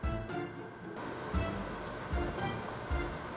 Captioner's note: bubbling